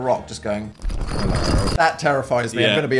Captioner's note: rocks tumbling